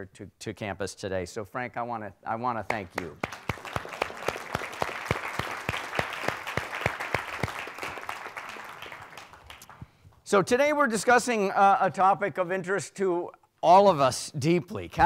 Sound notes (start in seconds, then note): 3.0 audience applauding